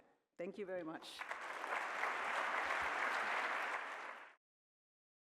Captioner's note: applause